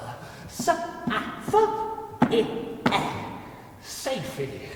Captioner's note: creature stammering